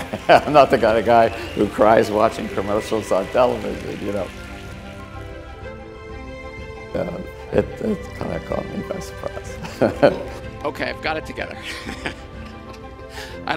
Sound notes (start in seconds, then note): 9.3 chuckles